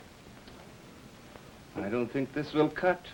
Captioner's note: film reel clicks